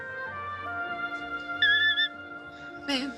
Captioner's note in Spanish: Grito